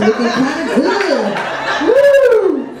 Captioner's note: audience laughs